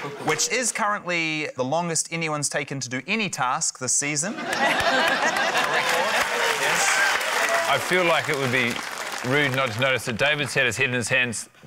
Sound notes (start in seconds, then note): 4.3 laughter, applause